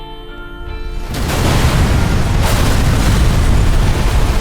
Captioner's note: explosion thunders